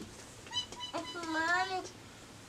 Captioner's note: mimics bird sounds